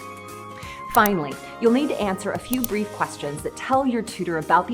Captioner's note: mouse Click